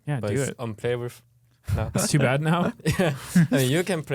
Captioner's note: laughs